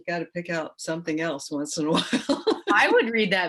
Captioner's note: laughs